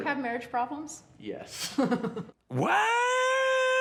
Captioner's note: laughs